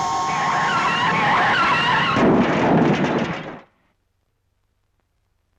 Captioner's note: car crashing